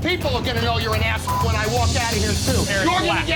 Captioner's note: beep